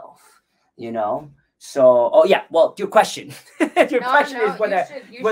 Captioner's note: laughs